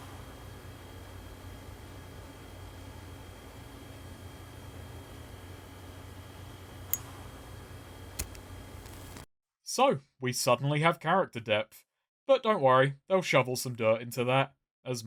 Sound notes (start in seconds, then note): 8.0 lighter ignites; 8.1 lighter clicks